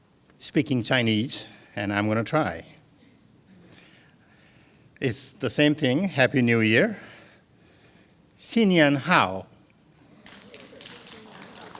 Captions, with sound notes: THAT WE'RE GOING TO EMBARRASS SPEAKING CHINESE AND I'M GOING TO TRY. IT'S THE SAME THING, HAPPY NEW YEAR. [ FOREIGN LANGUAGE ] [ APPLAUSE ]